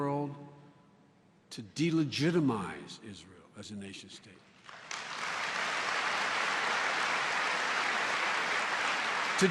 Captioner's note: applause